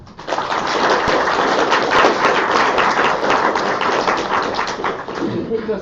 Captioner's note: applause